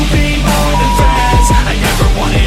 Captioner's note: beep; upbeat music